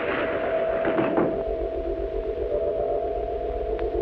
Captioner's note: door closes